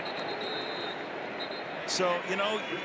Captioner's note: whistle